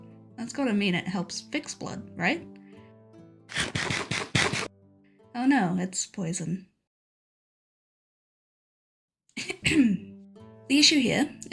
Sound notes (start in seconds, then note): 3.5 Minecraft eating noises; 6.9 awkward silence; 9.4 cough cough